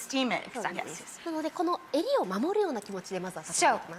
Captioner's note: Marie Kondo speaking Japanese